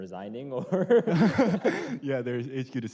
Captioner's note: laughter